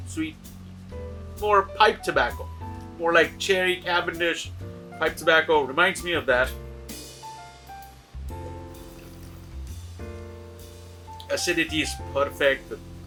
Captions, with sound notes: Sweet, for pipe tobacco. More like cherry Cavendish pipe tobacco, reminds me of that. (relaxed jazz music) (wine trilling) Acidity is perfect.